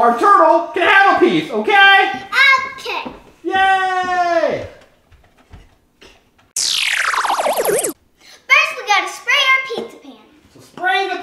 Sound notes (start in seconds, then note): 3.5 man cheers